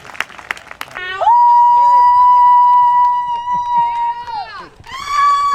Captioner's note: contestant howling